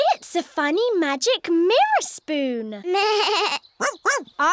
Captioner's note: bleats